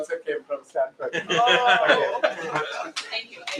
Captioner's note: laughter